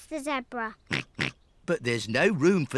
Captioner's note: snorts